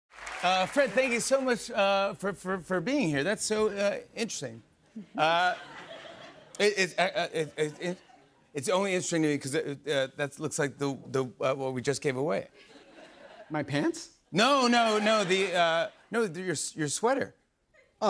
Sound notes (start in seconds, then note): 5.2 stammering